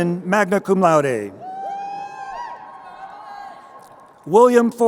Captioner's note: crowd cheering